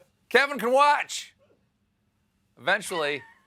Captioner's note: laughter